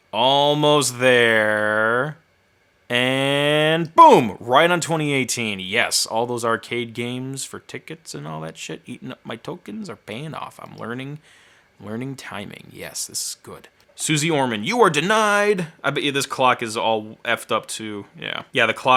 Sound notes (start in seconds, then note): none